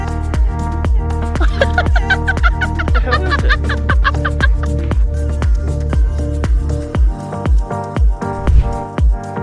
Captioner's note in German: lacht